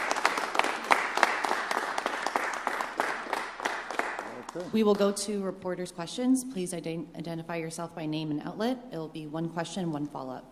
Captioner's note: applause